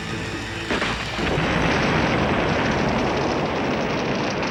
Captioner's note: booming explosion